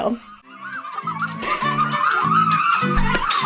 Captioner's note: screaming